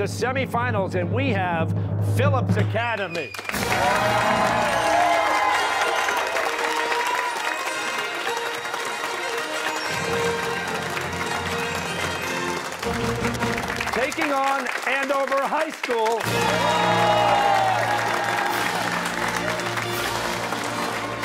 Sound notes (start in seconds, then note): 3.4 fanfare; 7.7 cheers and applause; 16.2 fanfare